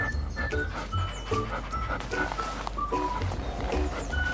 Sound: cheerful music; dog sniffing

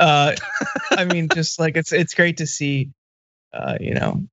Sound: laugh

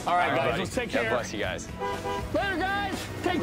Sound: honks horn

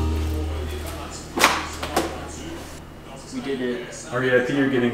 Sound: stool squeaking

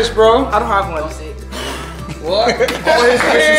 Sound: air swooshing

